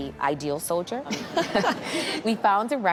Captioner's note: chuckles